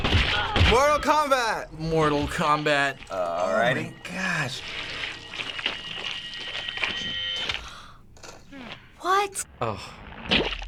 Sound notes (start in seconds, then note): 7.4 gasps